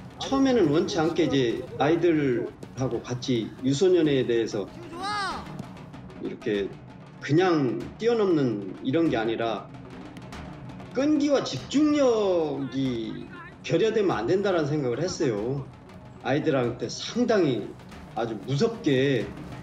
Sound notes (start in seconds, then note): 4.6 yells